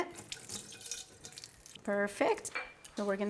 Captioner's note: water trickling